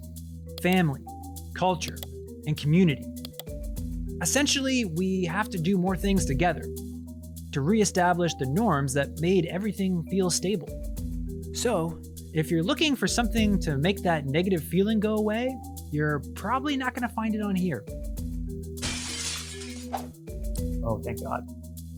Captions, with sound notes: family, culture, and community. Essentially, we have to do more things together to re-establish the norms that made everything feel stable. So, if you're looking for something to make that negative feeling go away, you're probably not going to find it on here. (Glass breaking sound effect) Oh, thank God.